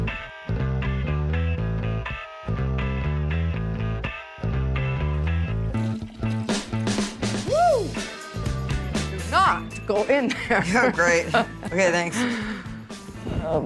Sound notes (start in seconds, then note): 0.3 upbeat rock music; 5.7 toilet flushes; 10.6 laughs